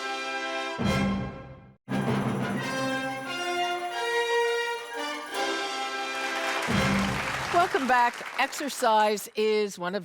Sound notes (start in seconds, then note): 0.1 theatrical music; 6.1 audience applauding